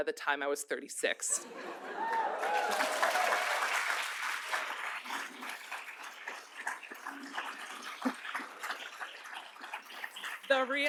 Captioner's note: applause